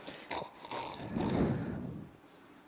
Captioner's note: slurping